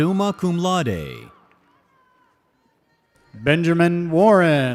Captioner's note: audience cheers